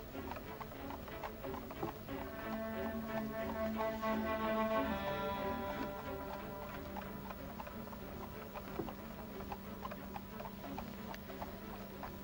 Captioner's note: hooves clopping; tense music